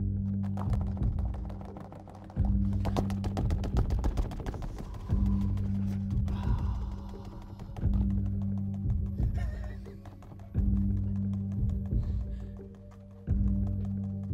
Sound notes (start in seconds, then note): 0.6 hitting wall; 9.2 laughing